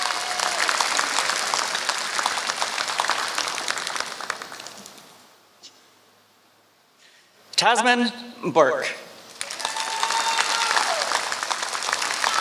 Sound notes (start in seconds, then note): 0.0 applause; 12.1 applause